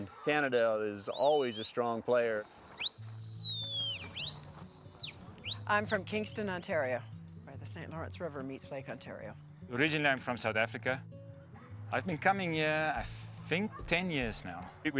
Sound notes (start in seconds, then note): 2.8 whistling